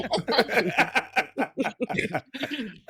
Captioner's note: laughing